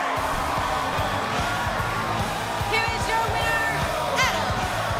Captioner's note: bell ringing